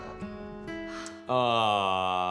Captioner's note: laughs